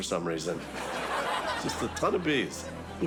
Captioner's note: studio audience laughs